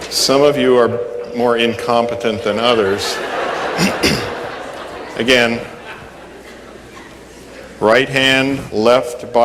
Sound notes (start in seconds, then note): 2.8 laughter